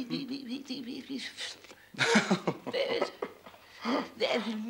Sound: Mr. Coleman laughs

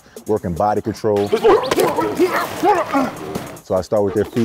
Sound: grunting

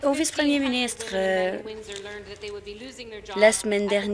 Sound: applause

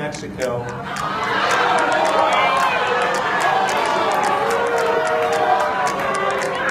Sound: crowd boos

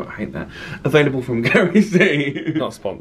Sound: laughs

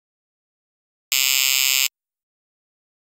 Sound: sound of electric fence

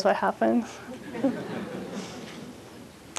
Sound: laughter

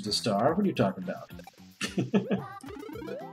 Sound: chuckles

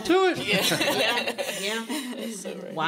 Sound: laughter

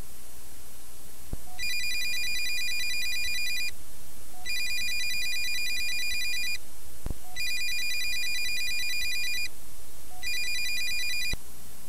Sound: phone ring

